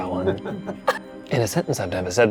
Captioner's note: chuckling